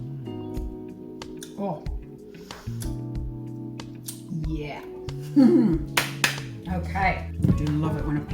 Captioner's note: hands clap